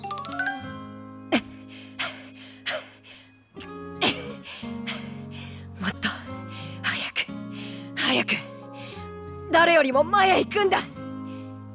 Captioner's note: huff; cough